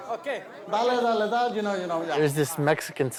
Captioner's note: non-english speech